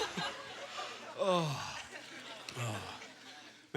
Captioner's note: sighing